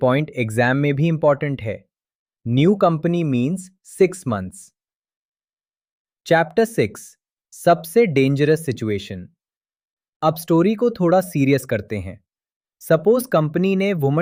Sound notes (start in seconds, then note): 9.3 pause